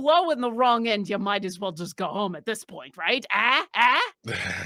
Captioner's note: yells; laughing